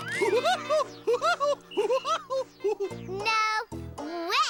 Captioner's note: laughing